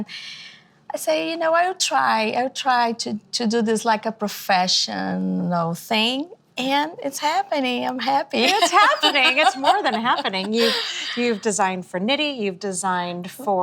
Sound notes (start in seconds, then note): 8.4 laughing